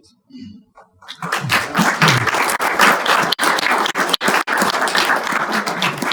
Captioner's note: audience applauding